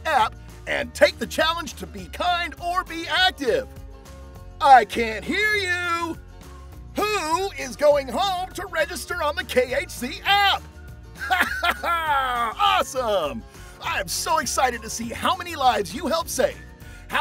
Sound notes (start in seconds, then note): 11.2 laughs